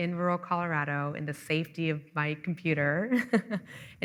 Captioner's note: chuckling